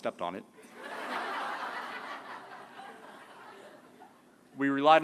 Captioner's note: laughter